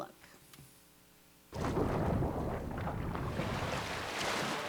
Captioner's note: thunder rumbling; waves crashing